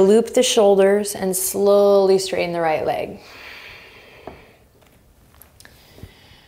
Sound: exhaling strongly

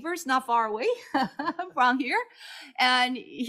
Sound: chuckles

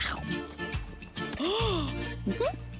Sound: gasps

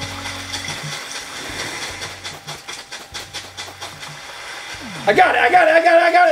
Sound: ocean waves; footsteps in sand

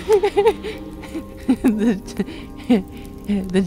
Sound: still Laughing

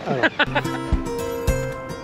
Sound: laughs; upbeat music

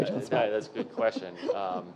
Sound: chuckling

